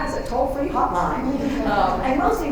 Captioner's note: laughter